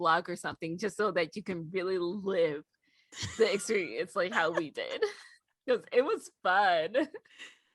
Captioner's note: wheeze